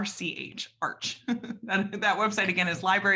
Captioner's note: laughs